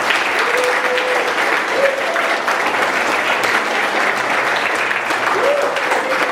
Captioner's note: clapping